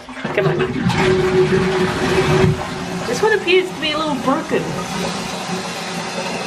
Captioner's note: flushes; flushes again